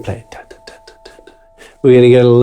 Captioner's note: imitates drum music